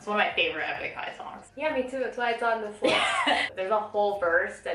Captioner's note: laughs